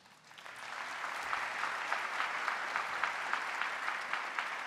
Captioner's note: audience applauding